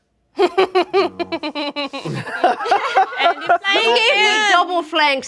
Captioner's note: group laughs